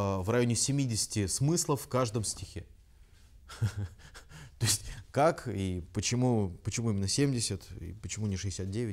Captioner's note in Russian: смеется